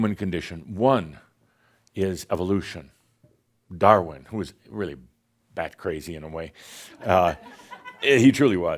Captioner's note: laughter